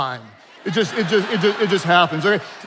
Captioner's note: attendees laughing